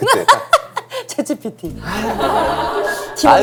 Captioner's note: laughs